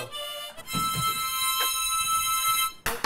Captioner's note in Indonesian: Fyuuuu